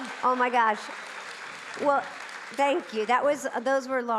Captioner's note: audience clapping